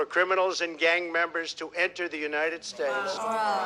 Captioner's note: all groaning